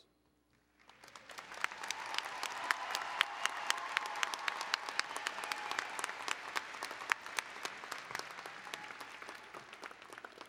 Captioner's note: applause and Cheering